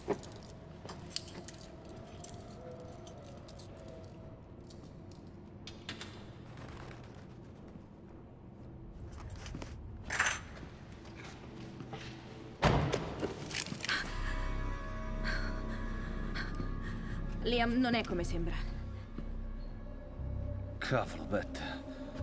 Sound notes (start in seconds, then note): 7.0 handcuffs clatter; 12.5 breathing heavily